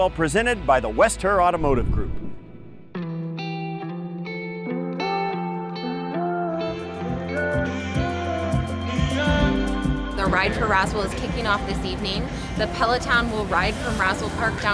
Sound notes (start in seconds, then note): 1.6 graphics whooshing; 3.2 bright upbeat music